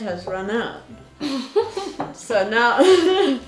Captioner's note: giggles; laughs